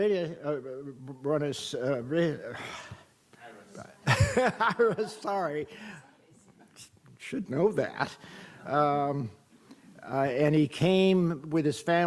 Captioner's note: laughs